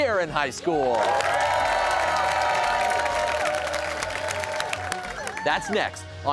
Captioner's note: cheers and applause